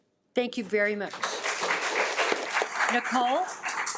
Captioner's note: attendees applaud